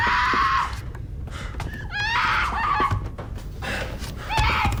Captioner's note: Rebecca screams